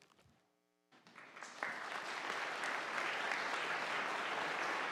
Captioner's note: audience applauding